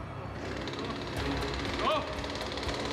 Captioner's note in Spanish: Sonido de la motosierra